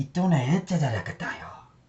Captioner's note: speaking in foreign language